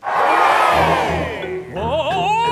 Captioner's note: crowd cheers